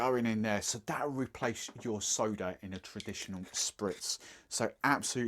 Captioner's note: none